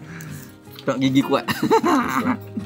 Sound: laugh

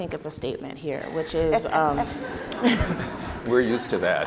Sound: laughing

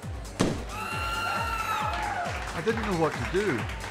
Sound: balloons pop; women scream

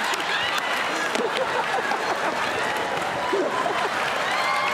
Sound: laughter

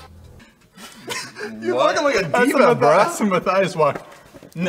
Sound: laughs

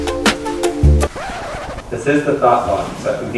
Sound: record scratches

